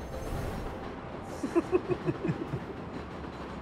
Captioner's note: chuckling